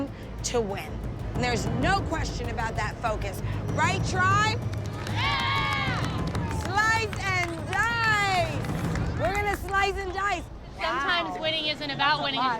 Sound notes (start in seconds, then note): 4.8 cheering